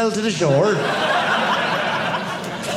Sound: audience laughing

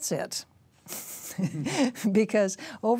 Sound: both laughing

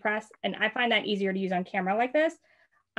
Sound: none

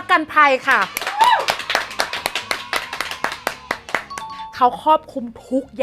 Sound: claps loudly

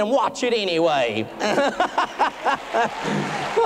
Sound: boisterous laughter; applause

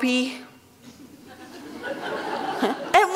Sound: laughter

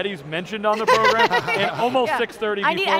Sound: laughs

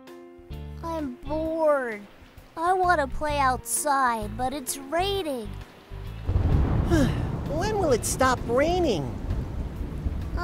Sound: rain & Thunder

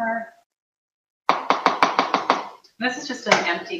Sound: spatula tapping

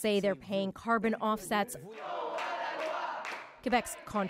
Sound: speaking French

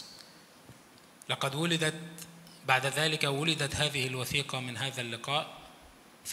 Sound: speaks in foreign language

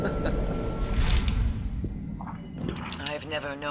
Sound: laughter

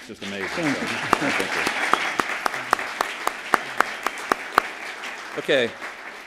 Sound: applause

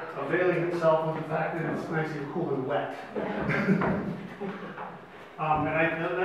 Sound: laughs

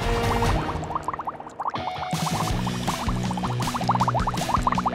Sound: bubbles

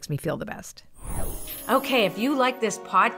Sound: magical whoosh

